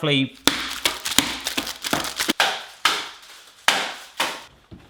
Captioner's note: smashing chocolate bar